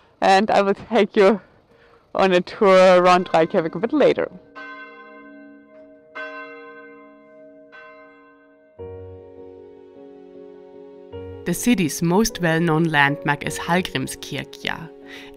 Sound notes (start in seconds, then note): 4.7 bell ringing; 9.6 tranquil music